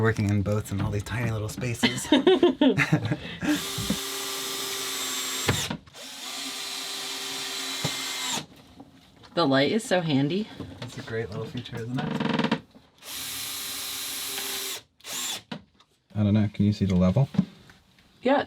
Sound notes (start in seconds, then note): 1.8 laughing; 3.4 drilling